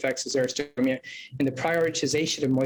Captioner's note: murmurs